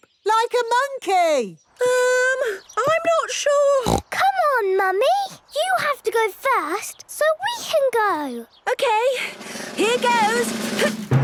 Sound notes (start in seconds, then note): 3.8 snorts